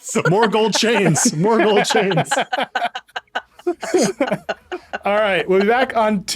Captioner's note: laughing; all laughing